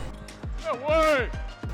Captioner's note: net whooshes